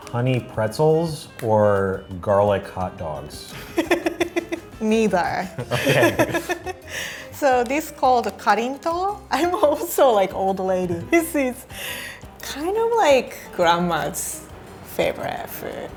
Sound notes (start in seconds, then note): 3.6 laughing; 8.0 speaking in foreign language